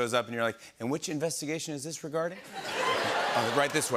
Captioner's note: laughter